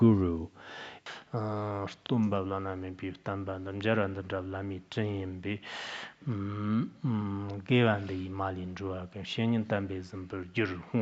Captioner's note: citing scripture in Tibetan